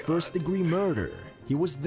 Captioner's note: voice-over